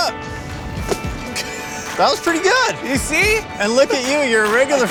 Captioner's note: laughs